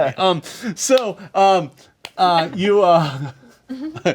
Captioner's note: laughs